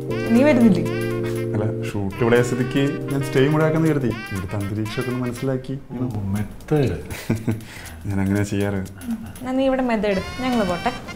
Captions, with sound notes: Aren't you coming? I thought I will stay here since the shoot is here. To imbibe the atmosphere... Oh, method! [Laughing] I usually work like that! So, you do method here! Let us go!